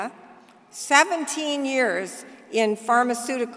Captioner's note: none